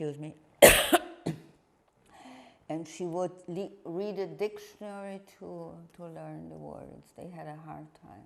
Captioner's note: coughing